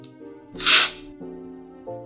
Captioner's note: slurping